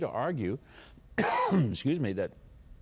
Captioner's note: Mike coughs